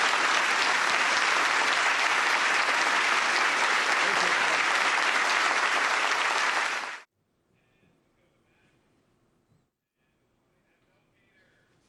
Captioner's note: applause